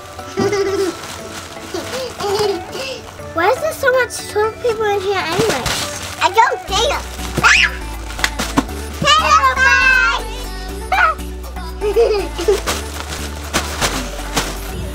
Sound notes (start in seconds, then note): 0.3 giggling; 5.5 squeals; 11.7 giggling